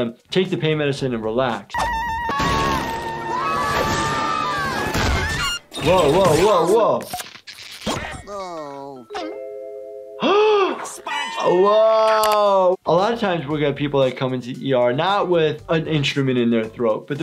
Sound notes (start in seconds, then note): 1.8 SpongeBob screaming; 10.2 gasps